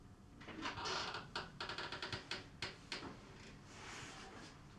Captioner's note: door creaking